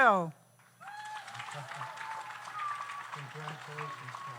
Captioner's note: audience applauds